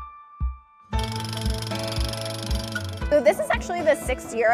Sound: drilling

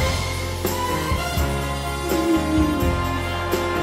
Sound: singsongy voice

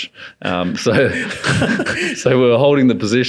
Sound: laughing

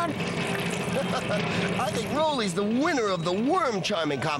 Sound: laughing

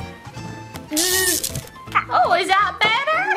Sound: zapping noise

